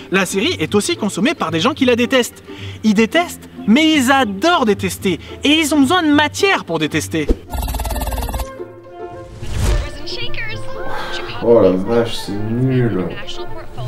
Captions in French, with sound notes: la série est aussi consommée par les gens qui la détestent ; Ils détestent… ...mais ils adorent détester ! Et ils ont besoin de matière pour détester. [Son de la série en fond] [Soupir] - Oh la vache, c'est nul !